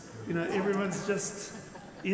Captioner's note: people laugh